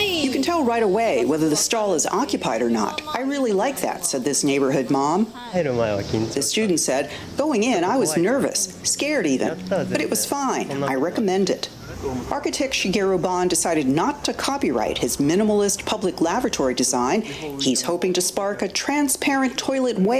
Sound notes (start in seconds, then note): 0.0 speaking japanese; 5.6 speaking japanese